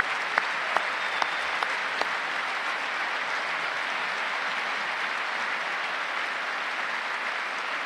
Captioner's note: applause